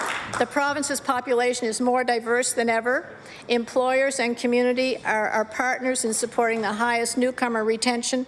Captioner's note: applause